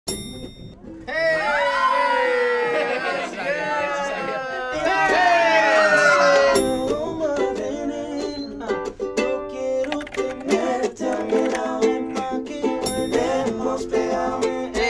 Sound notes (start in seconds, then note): 0.0 elevator dings; 1.1 girls scream; 5.9 girls scream; 6.5 elevator dings